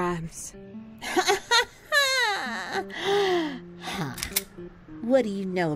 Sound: laughs

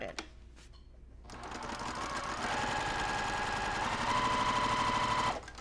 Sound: sewing machine whirling

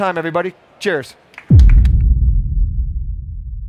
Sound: applause

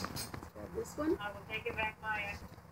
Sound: woman on two-way radio

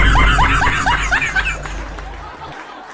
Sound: laughter

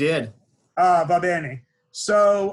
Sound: speaking in foreign language

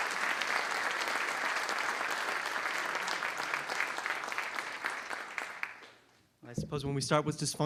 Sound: applause

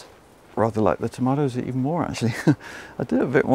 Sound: chuckles

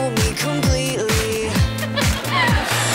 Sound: laughing

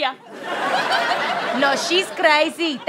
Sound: audience laughter

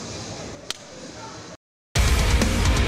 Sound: fist hitting hand; intense rock music

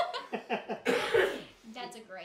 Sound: laughing

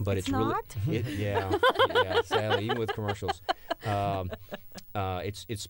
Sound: laughter

